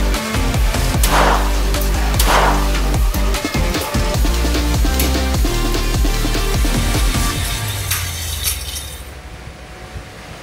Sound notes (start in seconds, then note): 0.2 gun firing; 6.7 winch squeaking